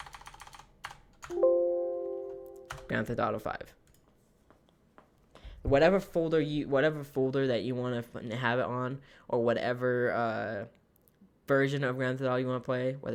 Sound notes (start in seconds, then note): 0.0 typing; 1.3 beep